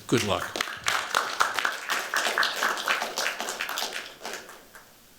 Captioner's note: applause